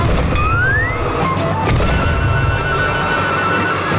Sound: stomping; growling

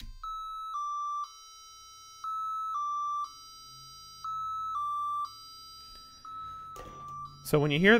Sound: beeping

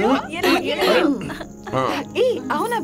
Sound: coughs

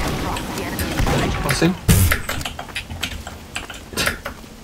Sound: noise indicating humour

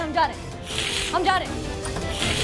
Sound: hissing

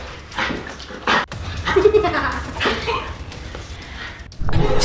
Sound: laughing wickedly; dramatic music

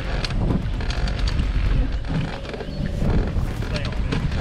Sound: boat creaking

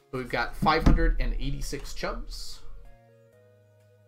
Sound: none

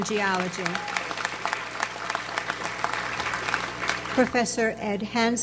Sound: audience applauds

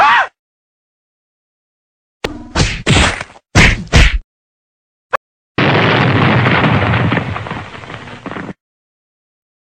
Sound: sounds of Destruction

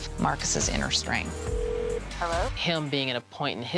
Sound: phone rings

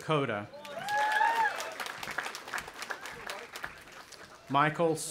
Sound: audience applauding and cheering

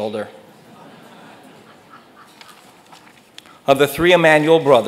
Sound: audience laughs

